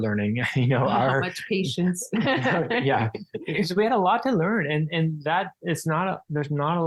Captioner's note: laughing